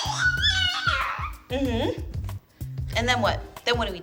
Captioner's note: baby babbling